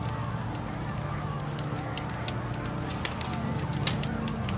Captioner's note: fire crackling